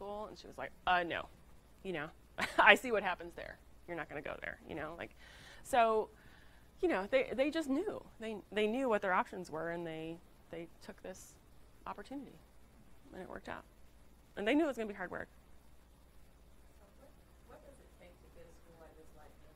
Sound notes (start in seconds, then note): 2.4 laughs